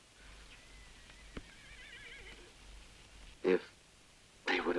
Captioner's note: horse whinnies